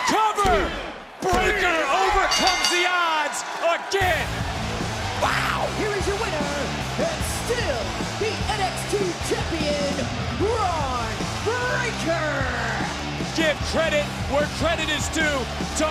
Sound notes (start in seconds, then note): 4.2 bell rings